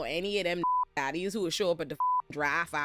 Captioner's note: beep; beep